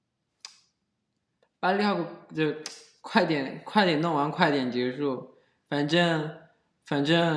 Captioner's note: chinese